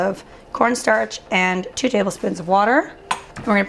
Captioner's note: clattering